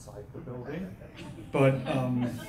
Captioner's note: laughing